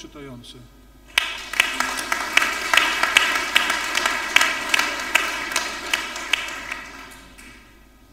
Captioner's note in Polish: oklaski